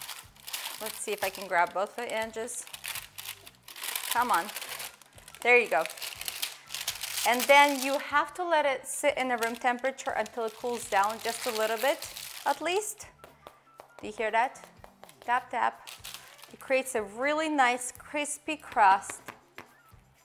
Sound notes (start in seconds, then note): 13.3 taping